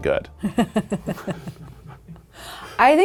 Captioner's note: laughing